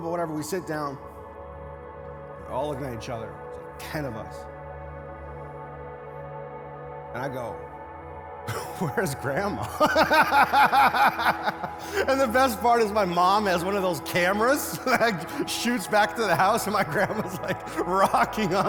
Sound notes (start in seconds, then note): 9.0 laughs; 11.5 congregation laughs; 14.6 laughs